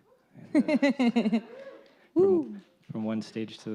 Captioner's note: laughs